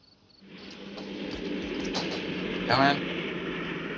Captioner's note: plane whirring